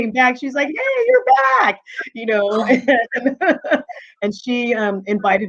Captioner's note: laughing